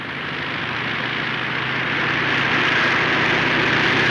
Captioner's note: engine droning